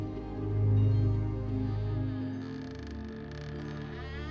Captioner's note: door creaks; eerie music